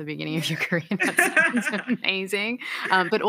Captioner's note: laughter